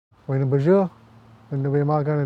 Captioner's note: speaking in Ojibway